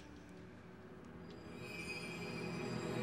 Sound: shimmering

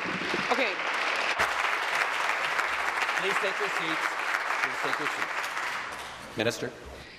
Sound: applause

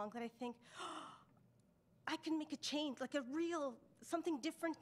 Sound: gasps

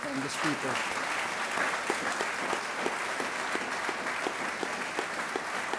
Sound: audience applauding

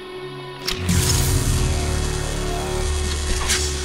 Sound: electronux crackles into life

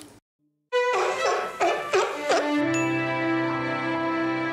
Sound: the seal is barking

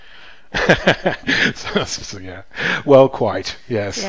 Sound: laughs

